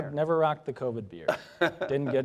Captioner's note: laughs